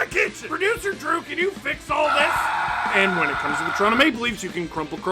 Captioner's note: screaming